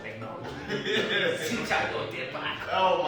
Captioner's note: all laughing